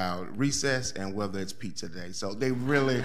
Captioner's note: audience laughing